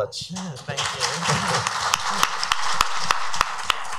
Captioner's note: crowd applauds